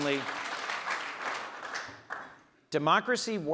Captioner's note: audience applauds